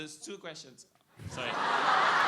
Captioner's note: laughter